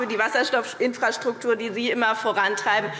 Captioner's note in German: none